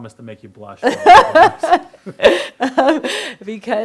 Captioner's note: laughs